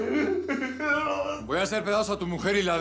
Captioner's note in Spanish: sollozos